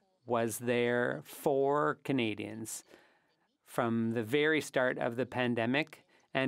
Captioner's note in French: voix de l'interprète